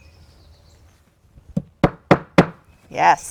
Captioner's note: hammer tapping